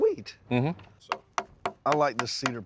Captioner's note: tapping